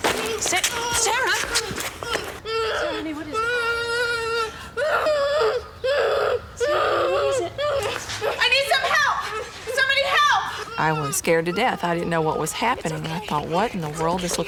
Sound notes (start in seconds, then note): 2.5 moaning